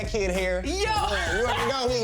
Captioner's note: laughs